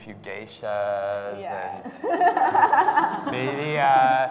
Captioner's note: laughs